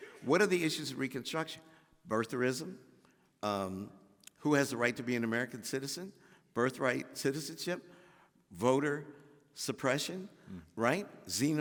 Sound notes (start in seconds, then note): none